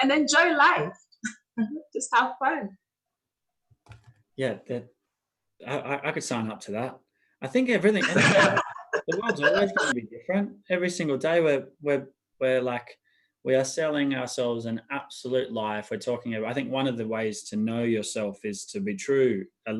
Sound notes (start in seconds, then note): 8.0 laughing